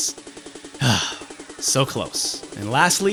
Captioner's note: sigh